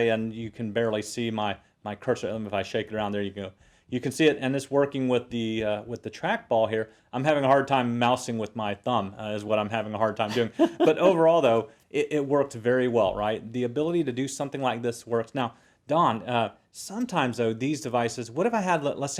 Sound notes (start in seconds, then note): 10.2 laugh